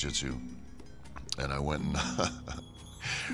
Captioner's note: laugh